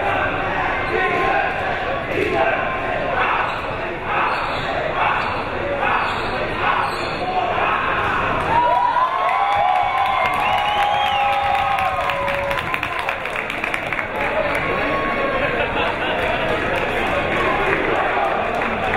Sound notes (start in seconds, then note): 2.7 team chanting; 9.1 crowd members cheering; 14.2 crowd members shouting